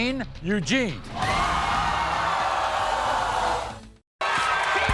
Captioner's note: audience screaming